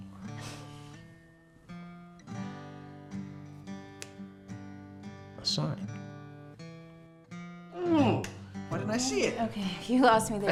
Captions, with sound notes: (soft guitar strumming) (fingers snapping) - A sign. Ugh, why didn't I see it? - Okay, you lost me there, Randy.